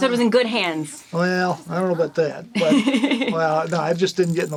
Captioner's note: laughs